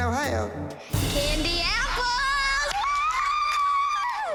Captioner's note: applause and cheering